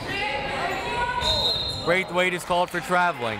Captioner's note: whistle